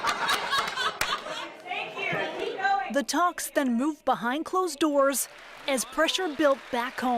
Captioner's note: laughter